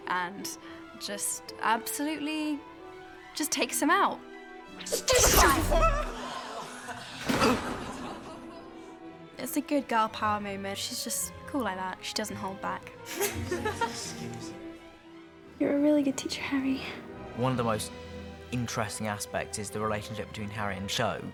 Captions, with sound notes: And just absolutely... ...just takes him out. Stupefy. [RON YELPS] It's a good girl-power moment. She's just cool like that. She doesn't hold back. [GIRLS LAUGHING] You're a really good teacher, Harry. One of the most interesting aspects is the relationship between Harry and Cho.